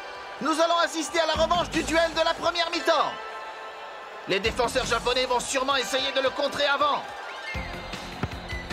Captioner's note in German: beifall